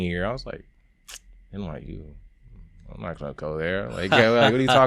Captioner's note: tuts; laughing